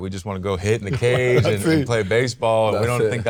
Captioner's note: chuckles